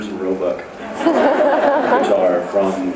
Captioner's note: laughs